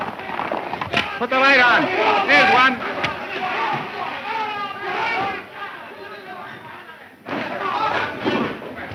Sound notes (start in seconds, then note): 4.2 clamor and shouting